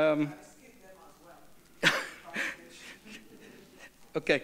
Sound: speaks off microphone

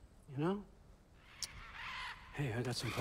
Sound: caws

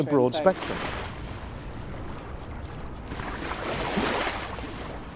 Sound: water splashing

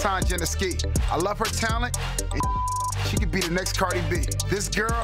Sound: beep

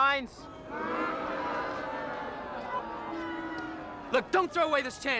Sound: crowd booing

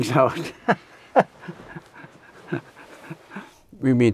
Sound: laughs

